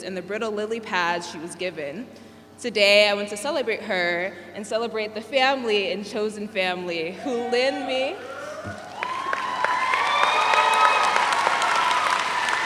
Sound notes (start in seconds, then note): 8.6 all applaud